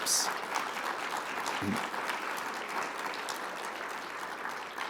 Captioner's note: audience applauding